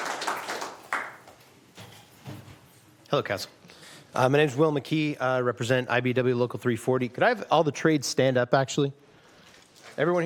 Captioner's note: applause